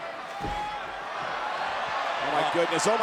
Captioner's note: crowd cheering